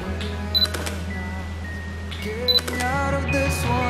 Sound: camera beeps and clicks

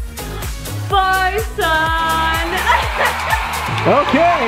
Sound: laughing

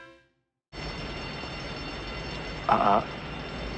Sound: alarm ringing

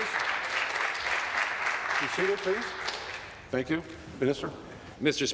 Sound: applause

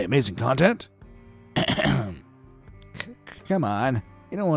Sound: police chief clears throat

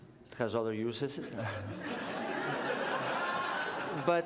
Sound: laughter

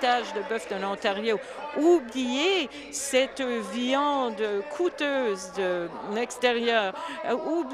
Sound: applause

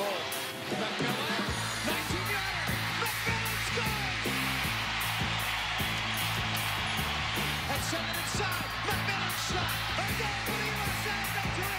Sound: cheering; tv announcer

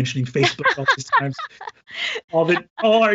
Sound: laughing drowns out speaker

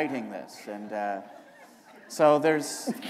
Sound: laughter

